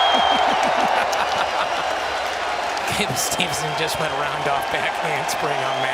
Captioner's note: laughs